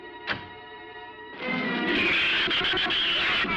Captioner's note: shrews chattering